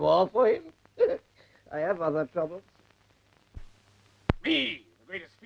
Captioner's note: laughs